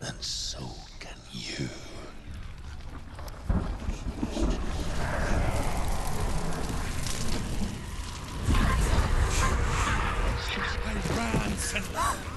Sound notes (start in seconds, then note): 3.8 growling